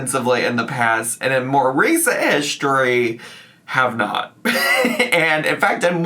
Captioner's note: laughs